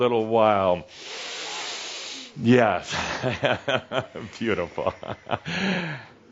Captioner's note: Adamus takes another deep breath